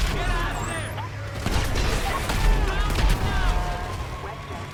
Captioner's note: soldiers clamoring